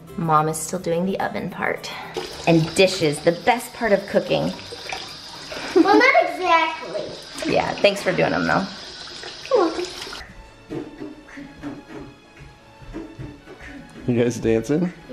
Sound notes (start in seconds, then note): 10.3 beat boxing; 10.3 gentle music